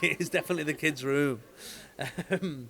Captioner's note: laughs